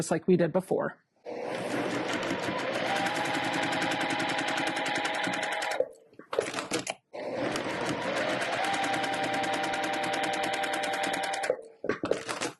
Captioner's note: sewing Machine Noises